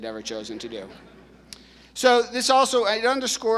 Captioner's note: audience laughing